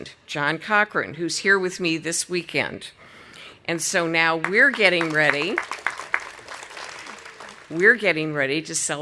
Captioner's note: audience applauding